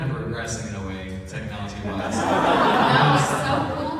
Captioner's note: laughter